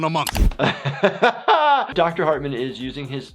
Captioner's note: laughs